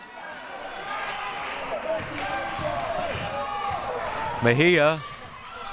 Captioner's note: audience chattering and yelling